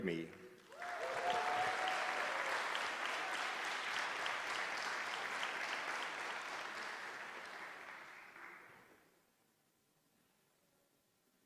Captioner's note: applause